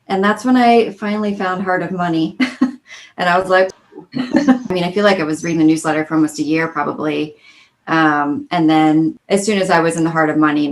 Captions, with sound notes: and that's when I finally found Heart of Money. (chuckles) And I was like... (laughing) I mean I feel like I was reading the newsletter, for almost a year probably. And then as soon as I was in the Heart of Money,